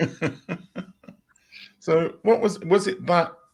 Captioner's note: laughing